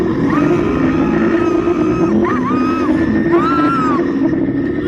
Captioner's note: both screaming